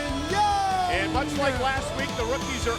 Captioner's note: crowd cheering